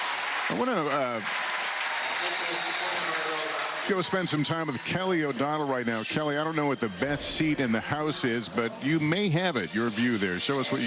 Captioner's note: applause